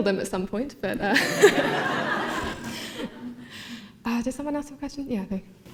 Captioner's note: laughter